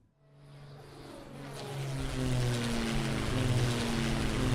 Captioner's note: airplane engines running